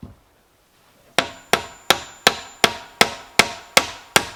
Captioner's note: hammering